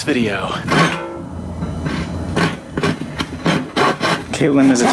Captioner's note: sawing noises